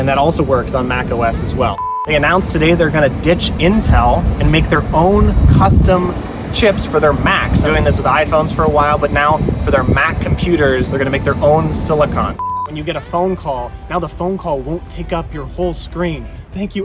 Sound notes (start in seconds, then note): 0.7 beep; 12.6 beep